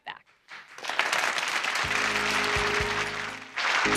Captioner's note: audience applauding; soft peaceful music